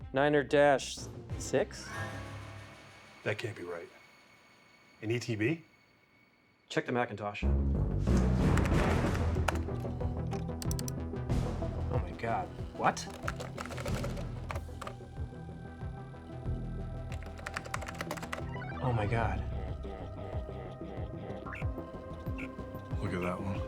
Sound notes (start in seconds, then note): 1.7 dramatic music; 7.7 dramatic music; 12.6 keys tapping